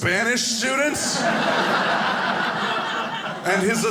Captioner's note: audience laughing